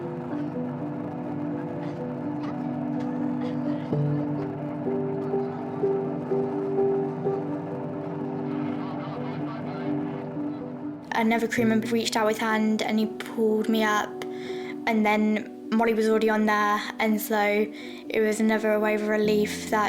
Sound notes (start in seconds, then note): 0.1 faint chatter from crew; 0.1 soft music; 9.1 radio chatter